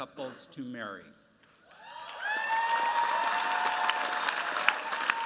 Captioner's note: cheers, applause